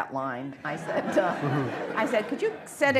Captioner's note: laughter